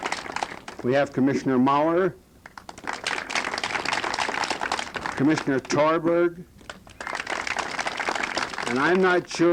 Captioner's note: applause; applause